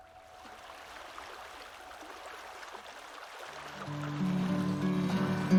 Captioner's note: water burbling